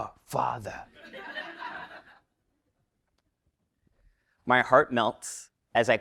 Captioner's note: laugh